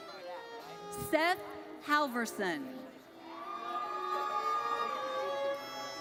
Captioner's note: audience cheers